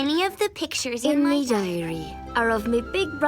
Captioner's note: Aunt Molly voiceover